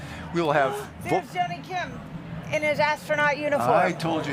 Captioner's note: gasps